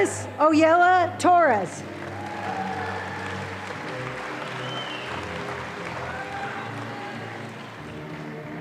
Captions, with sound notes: - Isis Oyela Torres. (audience applauding)